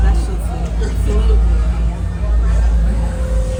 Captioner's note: laughs